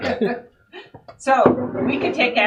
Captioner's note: laughing